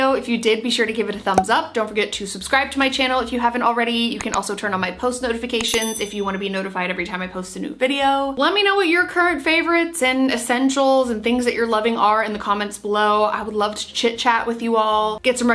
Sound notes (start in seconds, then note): 5.6 bell rings